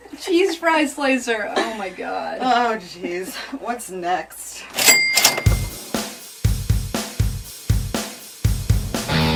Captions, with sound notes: the cheese fries slicer. Oh my God. - Oh geez. What's next? (cash register ringing) (upbeat rock music)